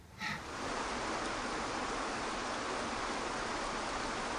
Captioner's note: water rushing